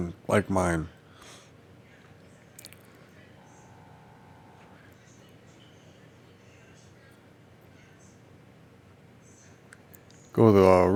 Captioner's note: silence